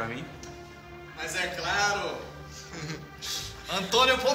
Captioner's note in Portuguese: risos